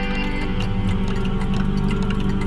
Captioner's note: clock ticking intensifies; low electronic music